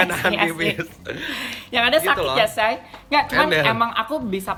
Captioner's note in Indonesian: ketawa bareng